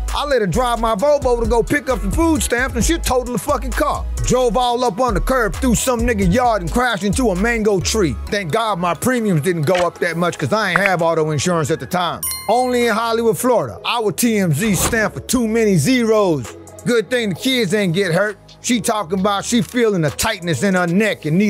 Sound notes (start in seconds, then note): 12.2 subscription bell chimes